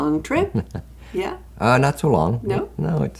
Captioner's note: chuckles